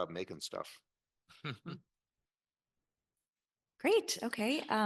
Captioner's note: panelists chuckle